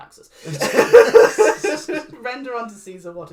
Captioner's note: laughs